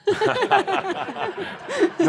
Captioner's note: laughter